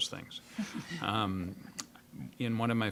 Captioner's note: scattered chuckling